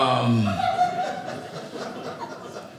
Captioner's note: audience laughing